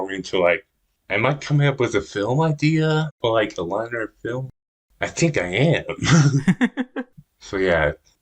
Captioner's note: both laugh